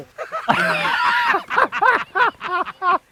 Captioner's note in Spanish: Risas